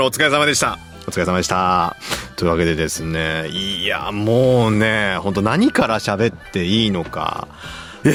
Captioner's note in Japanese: 鼻息